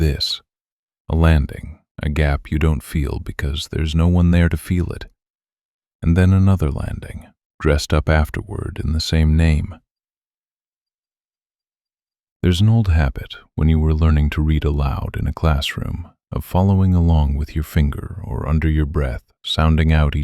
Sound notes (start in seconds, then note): 8.0 short pause